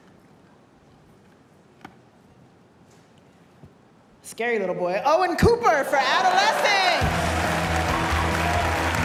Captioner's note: applause